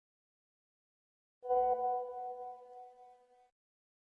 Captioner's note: message alert tone